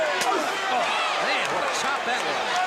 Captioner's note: crowd chatter